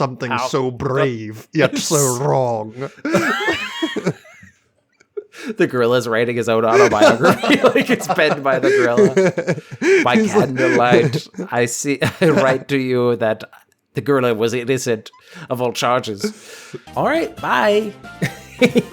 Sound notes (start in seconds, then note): 9.7 laugh; 10.7 old Timey Voice